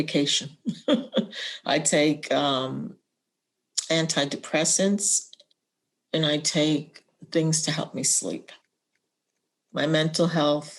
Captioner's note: laughter